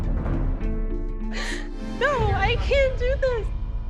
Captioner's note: crying